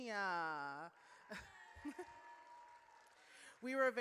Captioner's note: audience cheers